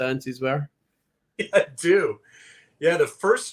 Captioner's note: laughs